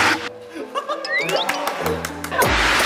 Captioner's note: clap clap clap